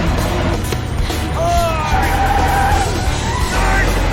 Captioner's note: tires screeching